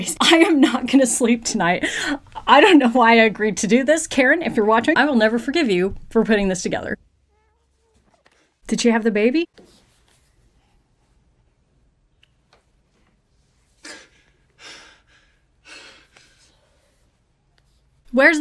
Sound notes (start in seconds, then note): 7.6 baby cooing